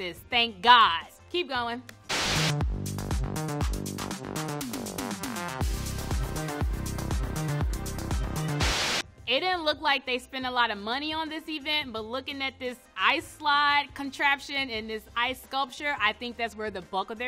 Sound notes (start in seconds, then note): 2.1 TV static hisses; 2.1 up-tempo dance music